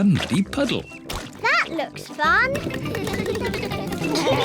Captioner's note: all giggle